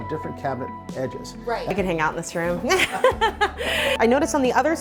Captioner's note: laughs loudly